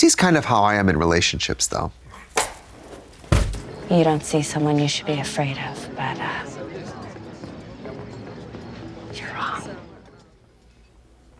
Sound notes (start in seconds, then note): 2.0 Katya rattles